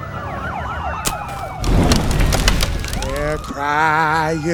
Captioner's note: sirens wailing; fire crackling